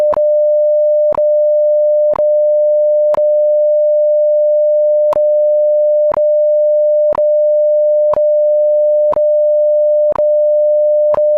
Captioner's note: beep Tone